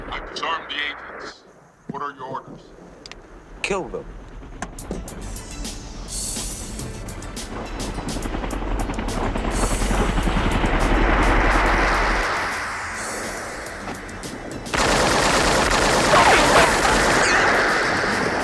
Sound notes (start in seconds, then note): 5.2 suspenseful music; 9.3 helicopter whooshing; 14.7 rapid gunfire popping